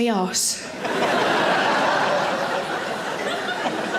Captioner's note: audience laughing